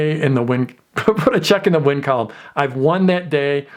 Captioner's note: chuckles